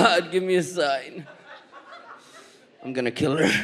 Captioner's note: audience laughs